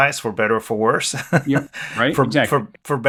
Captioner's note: laughs